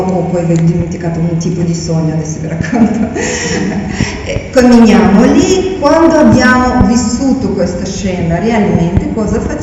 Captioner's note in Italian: risate